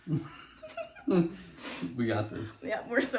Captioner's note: laughing